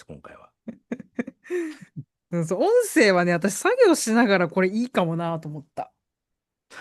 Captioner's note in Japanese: 笑い